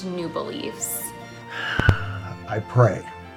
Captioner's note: sighs